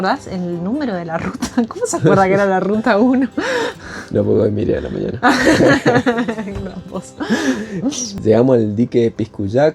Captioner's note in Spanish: risas